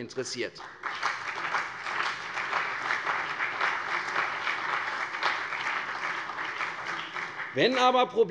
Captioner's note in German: Beifall CDU und vereinzelt BÜNDNIS 90/DIE GRÜNEN